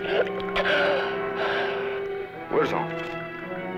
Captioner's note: non-english speech; gasps